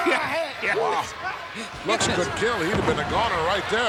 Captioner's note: laugh